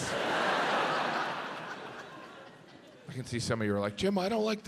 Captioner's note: audience laughs